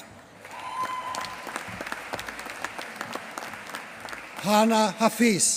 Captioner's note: applause